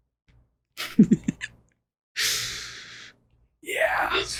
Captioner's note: giggles